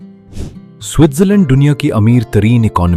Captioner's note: sniffing sound